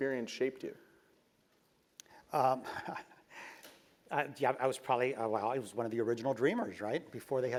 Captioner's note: laugh